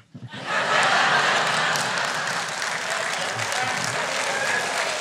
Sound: audience laughter

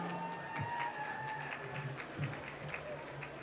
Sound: applause

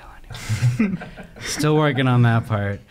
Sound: laughing

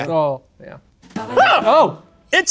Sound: The Professor screams

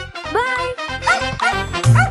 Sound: dog barking

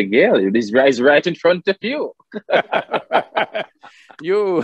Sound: both laugh

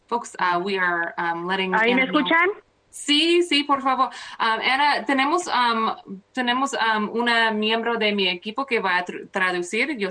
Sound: speaking spanish

